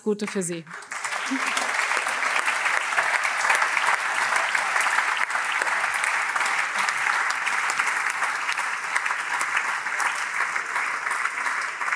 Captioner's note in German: Allgemeiner Beifall